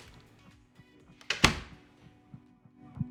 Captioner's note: door closing